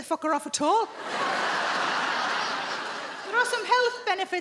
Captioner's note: audience laughing